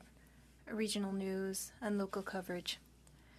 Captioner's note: speaking French